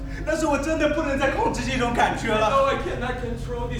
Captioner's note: speaking in a foreign language